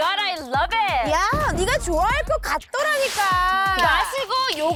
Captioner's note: perfect for taste sound effect